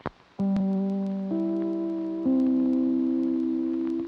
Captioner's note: tone chiming